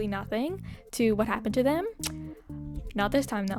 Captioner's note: clicks tongue